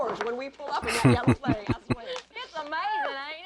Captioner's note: chuckling